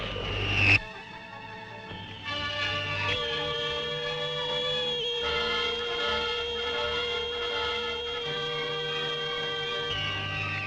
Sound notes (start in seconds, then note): 0.2 torpedo fires; 2.7 Vol Plane whizzes; 7.9 desperate music; 10.5 torpedo hums